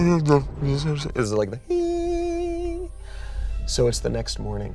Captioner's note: makes high tone